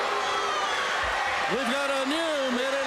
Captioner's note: crowd cheering